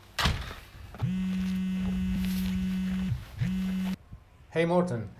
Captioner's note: cell ringing